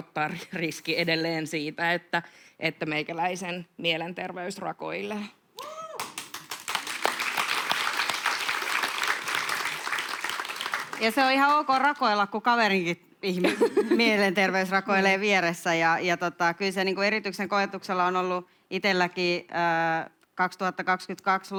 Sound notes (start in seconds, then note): 5.9 aplodeja